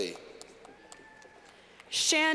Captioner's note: clapping